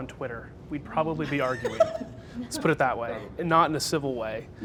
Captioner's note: laughs